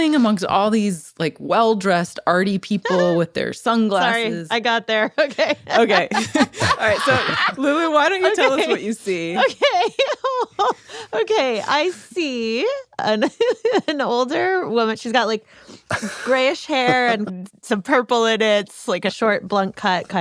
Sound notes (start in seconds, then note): 11.5 laughs